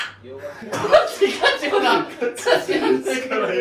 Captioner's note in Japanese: 笑い